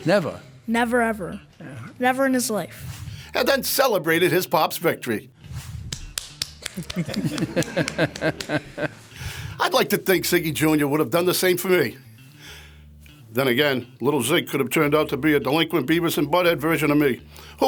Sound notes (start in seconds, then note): 5.8 hands clapping; 8.1 laughs